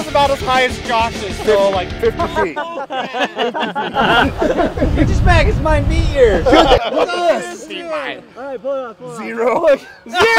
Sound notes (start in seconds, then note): 3.1 all laughing